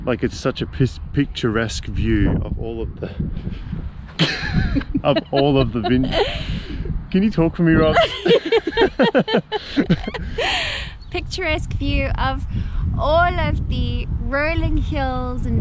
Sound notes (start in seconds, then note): 4.1 laughing